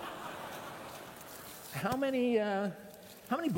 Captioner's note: laughter